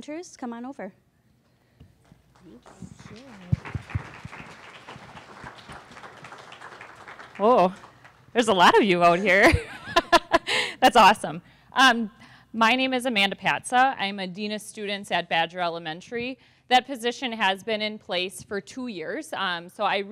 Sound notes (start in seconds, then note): 2.2 applause; 10.5 laughs